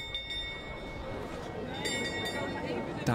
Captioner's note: clock strikes